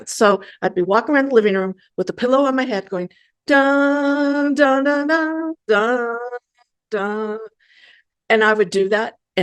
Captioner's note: humming tune